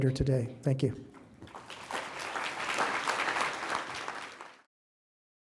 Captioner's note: audience applauding